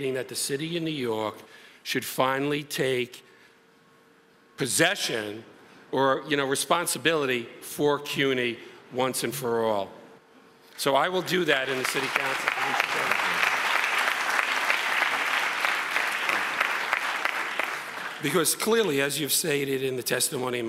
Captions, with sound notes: that the city of New York should finally take possession, or you know, responsibility for CUNY once and for all. So I will do that in the City Council. (audience applauds) (applause drowns out speaker) Because clearly, as you're saying it in the testimony,